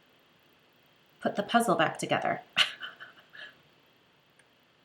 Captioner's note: laughs